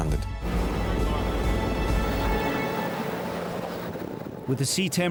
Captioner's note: intense music; boat droning